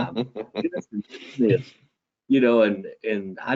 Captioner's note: audio distortion